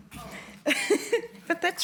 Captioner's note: laughs